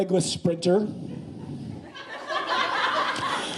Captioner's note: laughing